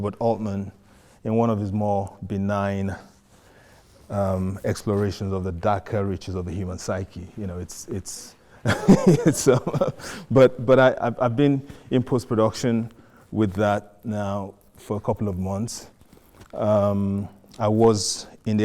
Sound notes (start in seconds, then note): 8.6 laughs